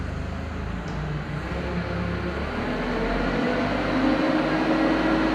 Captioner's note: forklift engine running